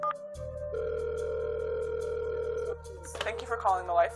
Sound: phone beeping; phone ringing

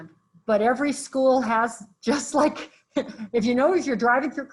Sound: laughs

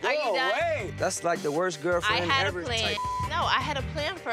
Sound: beep

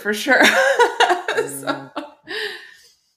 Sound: laughs

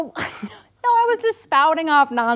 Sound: laughs dismissively

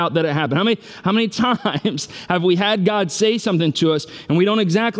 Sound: laughs

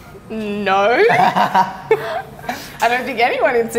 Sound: laughing

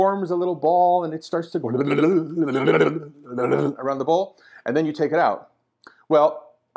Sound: funny noise

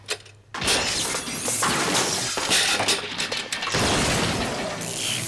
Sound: electricity crackling

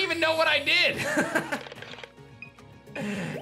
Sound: chuckles

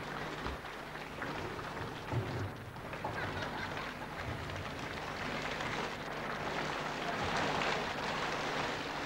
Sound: applause on shri mataji's arrival

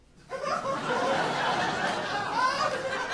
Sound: audience laughing

